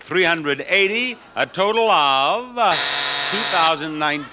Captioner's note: buzzer rings